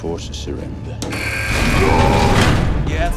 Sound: door buzzing; roars

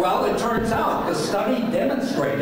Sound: laughing

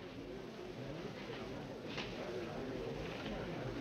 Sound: people chattering

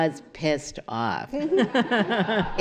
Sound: laughter

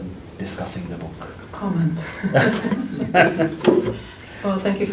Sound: laughter

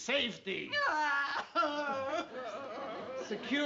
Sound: aunt sophie crying

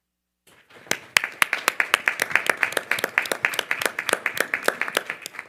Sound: panel members clapping

